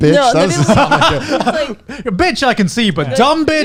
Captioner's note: laughing